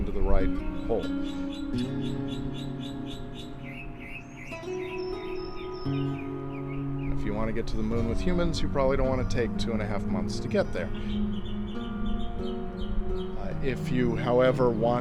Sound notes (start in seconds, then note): 3.2 birds calling; 3.2 gentle music